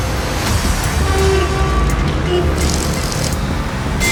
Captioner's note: bus horn